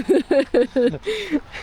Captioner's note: laughing